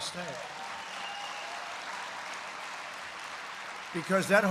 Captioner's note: applause